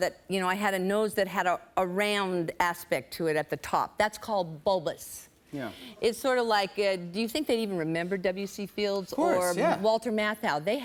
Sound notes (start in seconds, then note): none